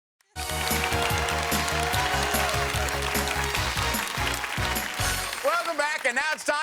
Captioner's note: audience applauds; upbeat game show music